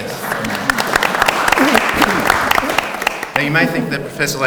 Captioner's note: audience applauds